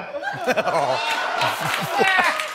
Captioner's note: laughs